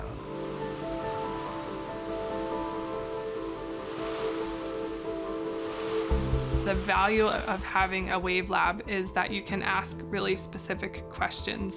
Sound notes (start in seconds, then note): 1.8 soft bright music continues; 1.8 waves lapping